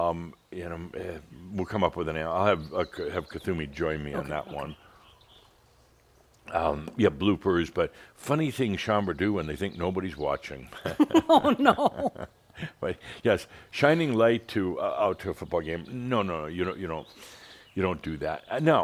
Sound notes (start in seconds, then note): 10.7 laughing; 12.3 chuckles